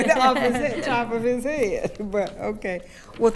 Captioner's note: attendees laughing